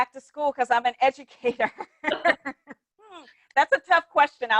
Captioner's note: people laughing